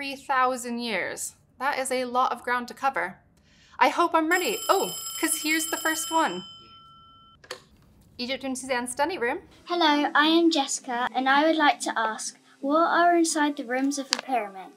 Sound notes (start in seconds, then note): 7.0 phone rings